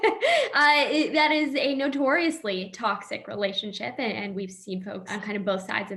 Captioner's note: laughing